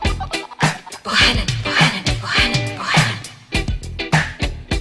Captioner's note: chanting